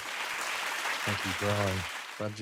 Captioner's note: audience clapping